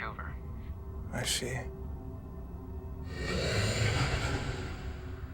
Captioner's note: solemn music continues; creature growling